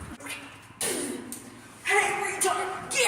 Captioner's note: spits tobacco